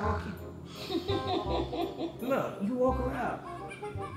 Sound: laughs

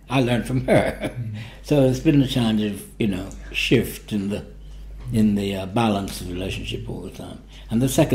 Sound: laughs

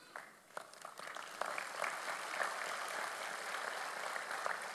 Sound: audience applauds

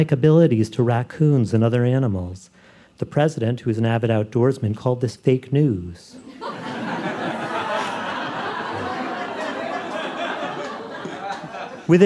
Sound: laughter

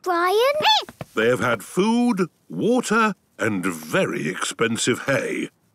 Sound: squeaking

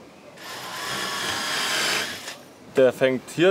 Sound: whirring

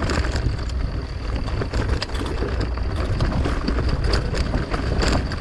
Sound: bike rumbling; gear clicks

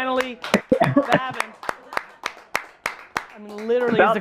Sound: applause

